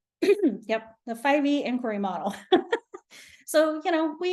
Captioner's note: chuckles